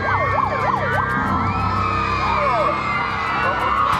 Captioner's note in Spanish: chicas aclaman